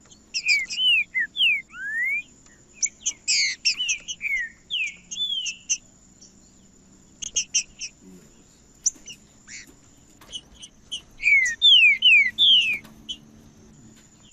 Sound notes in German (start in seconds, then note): 1.2 trinca ferro cantando; 3.2 trinca ferro cantando; 5.2 trinca ferro cantando; 7.2 trinca ferro cantando; 9.2 trinca ferro cantando; 11.2 trinca ferro cantando; 13.2 trinca ferro cantando